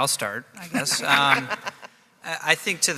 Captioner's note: laughing